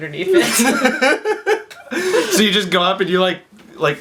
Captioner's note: laughs